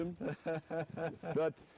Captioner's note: laughter